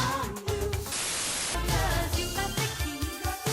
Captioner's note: static hissing